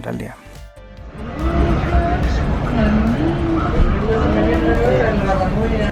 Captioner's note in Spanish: sonido ambiente dentro del tren